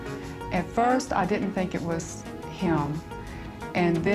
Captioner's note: voice altered